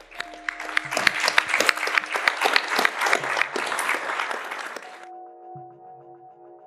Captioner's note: audience applauding; gentle music